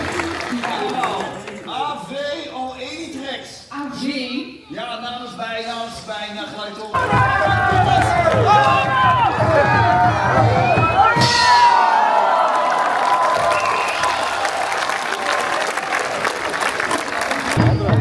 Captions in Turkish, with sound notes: [alkış] Alex ja namens bijna [coşkulu tezahürat] [alkış]